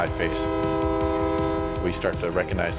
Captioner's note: train horn blowing